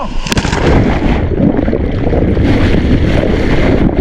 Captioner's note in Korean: 파도 부딪히는 소리